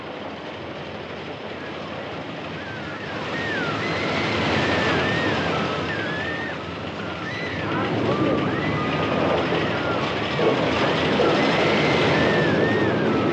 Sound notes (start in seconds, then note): 3.8 people Shrieking